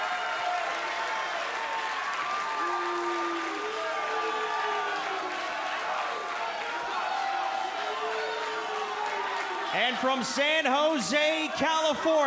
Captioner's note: crowd cheering